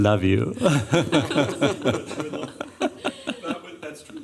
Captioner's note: laughter